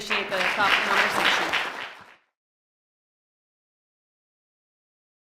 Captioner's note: applause